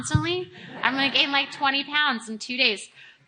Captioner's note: audience laughing